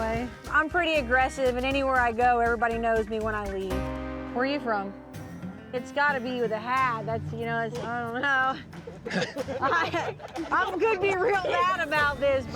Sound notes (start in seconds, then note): 8.6 chuckles